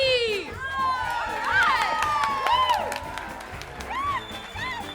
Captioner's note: all cheering